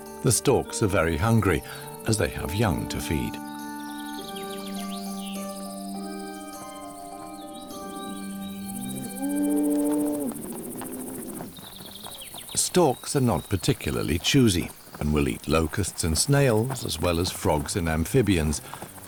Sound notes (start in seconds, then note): 8.5 cow moos